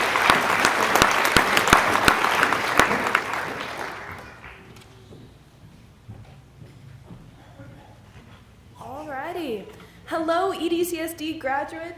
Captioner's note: applause